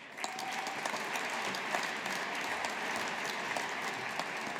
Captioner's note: audience applauding